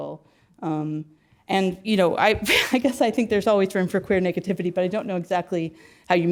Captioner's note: laugh